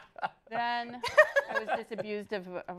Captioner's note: laughter